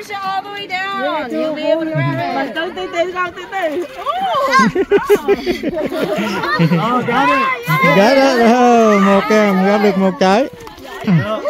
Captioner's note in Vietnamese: Tiếng cười